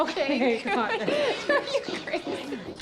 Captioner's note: laughing